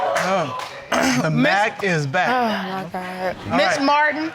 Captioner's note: clears throat